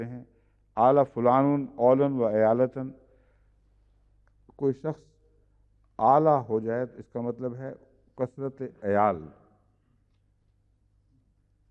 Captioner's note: Arabic